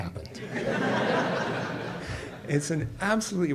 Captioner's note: audience laughs